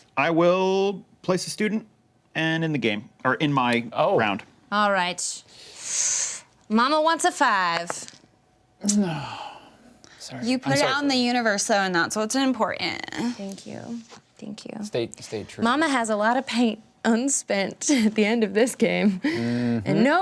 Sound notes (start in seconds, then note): 5.5 inhales sharply; 8.8 sighs